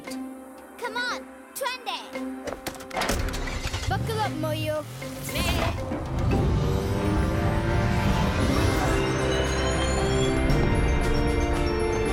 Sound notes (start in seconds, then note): 3.0 engine starting; 5.4 bleating; 8.0 epic music